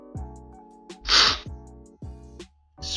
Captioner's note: slurping sound